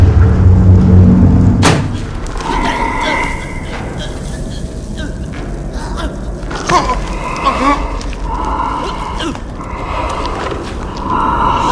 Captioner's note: heavy breathing